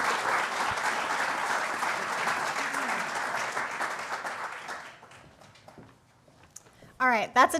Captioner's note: applause